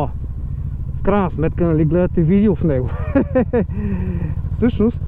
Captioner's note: laughing